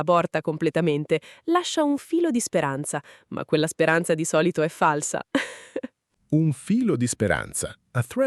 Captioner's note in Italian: risate